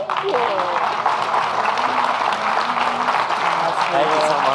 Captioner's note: audience clapping